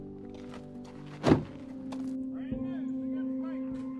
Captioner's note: door thudding